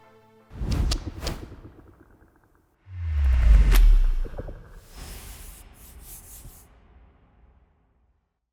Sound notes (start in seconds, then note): 1.0 graphic whooshing